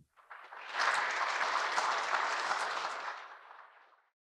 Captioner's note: audience Applause